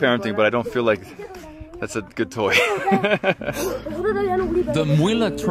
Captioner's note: laughing